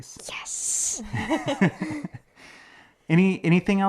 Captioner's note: laughing